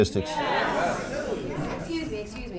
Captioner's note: crowd